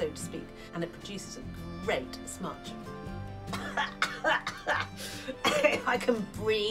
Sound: coughs

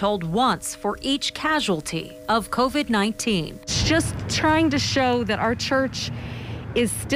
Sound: bell ringing

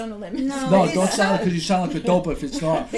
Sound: voiceover

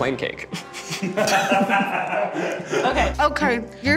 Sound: chuckling

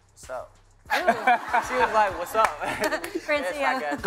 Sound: laughter

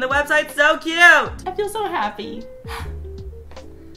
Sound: sigh

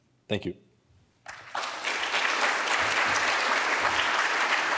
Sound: audience applauds

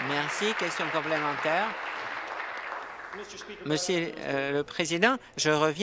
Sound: applause

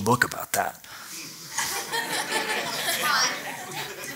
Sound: laughter

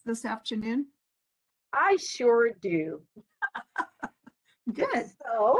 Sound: laughing

